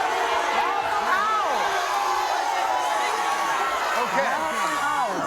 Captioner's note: crowd shouting